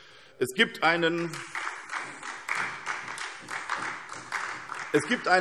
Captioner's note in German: Beifall SPD